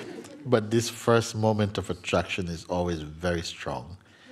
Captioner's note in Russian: Муджи читает письмо и смееется